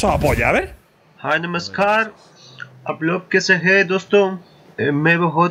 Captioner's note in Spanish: habla en un idioma extranjero